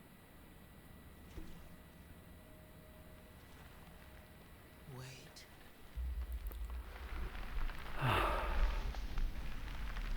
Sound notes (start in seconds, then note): 7.9 sighs